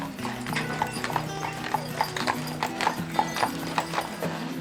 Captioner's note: horse shoes clopping